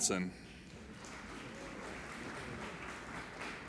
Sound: applauding

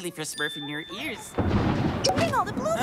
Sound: thundering

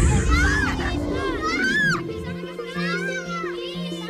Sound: yelling

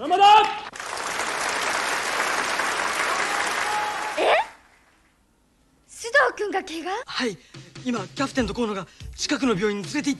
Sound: applause

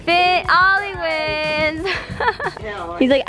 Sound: laughs

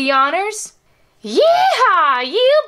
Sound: voice changes to Southern accent

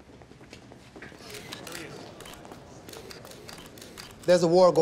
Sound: cameras clicking

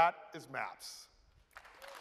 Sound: applause

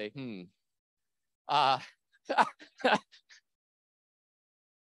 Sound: laughs

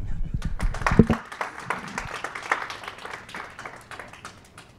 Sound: applause

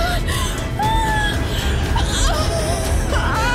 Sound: wailing

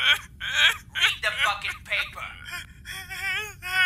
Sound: crying

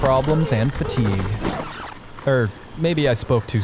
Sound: record scratching

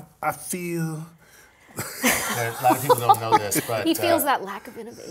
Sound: laugh

